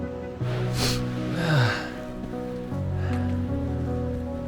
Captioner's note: background music; sniff; sigh